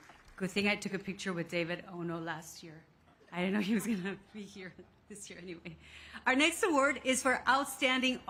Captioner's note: cheers and applause